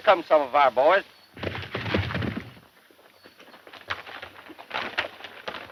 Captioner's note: horses galloping